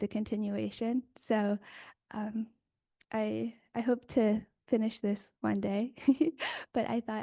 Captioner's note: chuckles